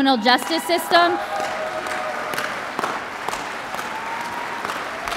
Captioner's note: audience cheers and applauds